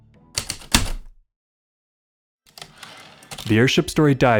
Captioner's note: typewriter clicks and slide